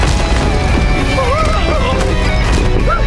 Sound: screaming

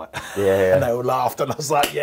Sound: laughs

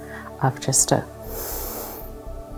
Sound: breathes in

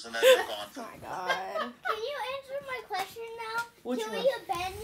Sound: laughing

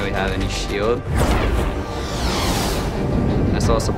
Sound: air swooshing

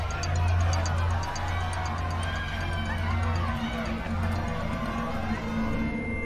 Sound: crowd screaming and shouting

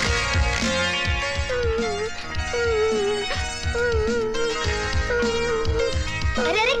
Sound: crying

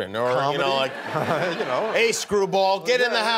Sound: laughter

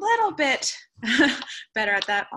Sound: laughter

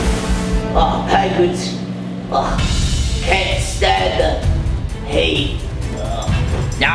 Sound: grunts

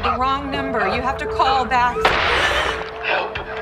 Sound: gun firing; Kelli gasps

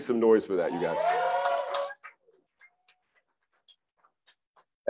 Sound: crowd cheers

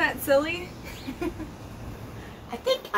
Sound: woman giggles

